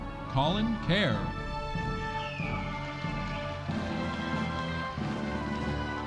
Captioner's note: audience applauding